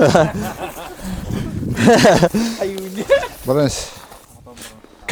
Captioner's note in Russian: смех